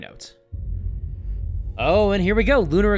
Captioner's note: rumbling